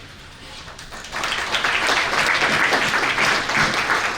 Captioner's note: audience clapping